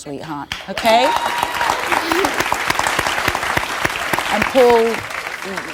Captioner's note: audience cheers and applauds